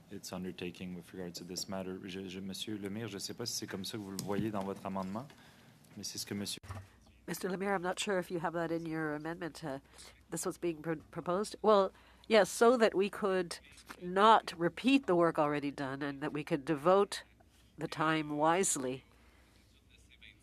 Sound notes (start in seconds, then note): 14.4 speaking French